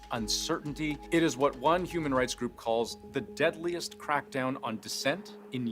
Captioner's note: speaking alternate language